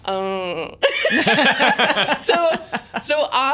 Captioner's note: laughter